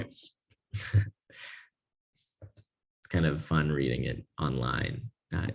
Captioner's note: laugh